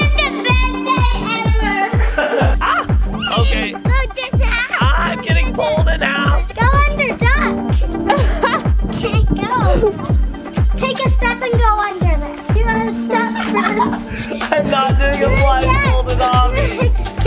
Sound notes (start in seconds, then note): 0.0 children giggling; 1.9 dad laughing; 4.2 grunting; 7.8 laughing; 13.1 laughing